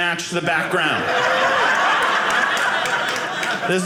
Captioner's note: audience laughing